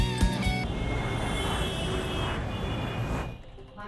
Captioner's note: traffic sound